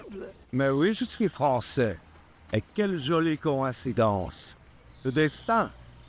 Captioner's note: Jean-Jacques speaking in French